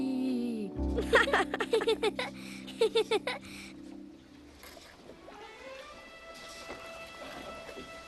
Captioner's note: laughing